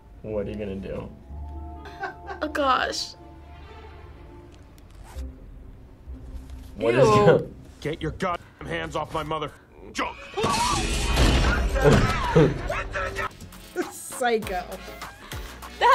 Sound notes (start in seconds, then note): 4.8 zipper unzips; 10.0 actor screaming